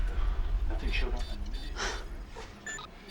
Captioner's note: monitor beeping; indistinct chatter; scoffs